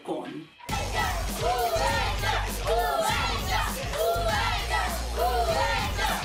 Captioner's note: children chanting